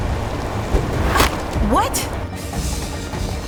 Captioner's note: scoffs